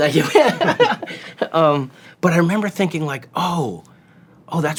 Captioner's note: laughs